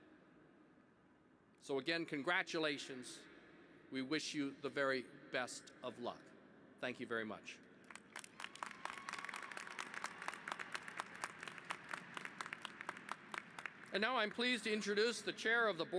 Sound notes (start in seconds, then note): 7.8 applause